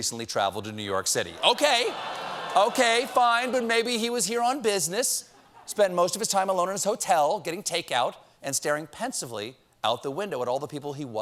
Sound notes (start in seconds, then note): 6.3 audience reacts